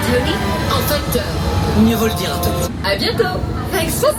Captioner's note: Spider-Man speaks in French